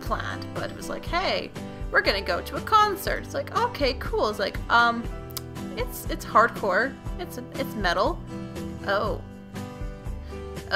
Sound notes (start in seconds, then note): 5.2 smakin' de lips